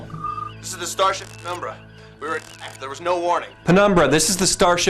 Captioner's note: comm, breaking up